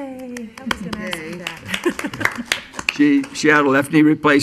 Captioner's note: muttering and applauding